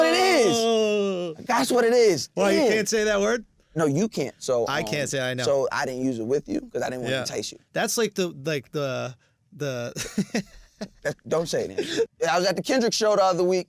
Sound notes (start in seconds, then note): 9.9 laughs